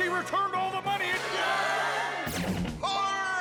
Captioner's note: people cheer